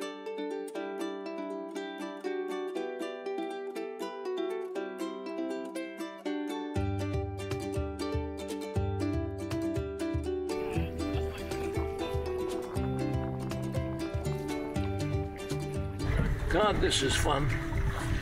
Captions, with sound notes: [distant chatter] [splashing] God, this is fun.